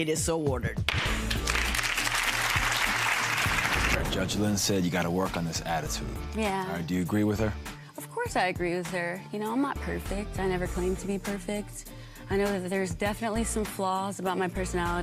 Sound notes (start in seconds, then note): 0.8 clapping